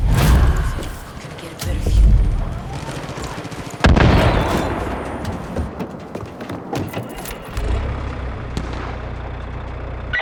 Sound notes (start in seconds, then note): 0.8 engine revving; 1.6 gun firing; 7.4 engine revving